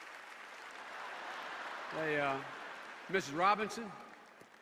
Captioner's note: laughter and applause